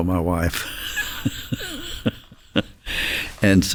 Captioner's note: chuckles